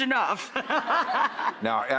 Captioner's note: laughs